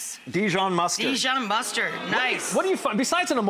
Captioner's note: crowd woos